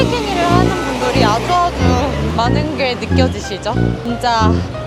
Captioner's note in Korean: 계속 택시가 타라고 클락션을 울린다